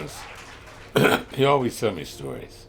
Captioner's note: clears throat